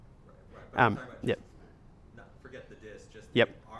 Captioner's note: voiceover